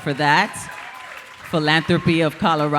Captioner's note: audience applauding